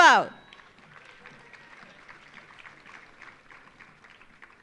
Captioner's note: audience applauding